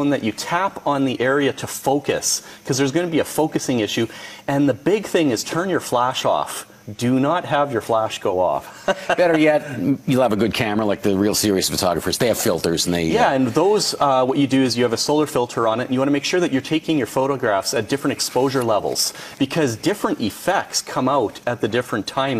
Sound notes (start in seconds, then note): 8.7 laughs